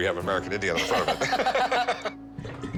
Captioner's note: laughs